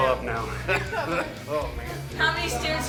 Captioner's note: coughs